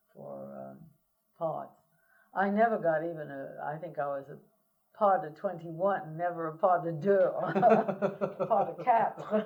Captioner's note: laughter